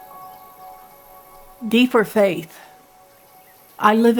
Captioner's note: birds chirp